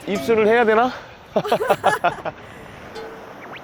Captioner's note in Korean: 쾌녀 웃음; 쾌남 웃음